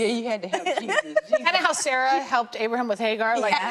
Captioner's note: women laughing